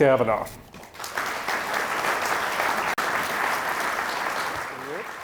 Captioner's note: audience applauding